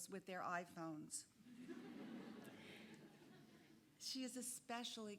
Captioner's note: audience laughing